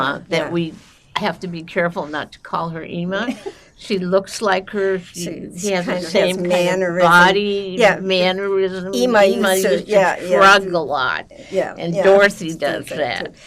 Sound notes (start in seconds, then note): 3.4 laughing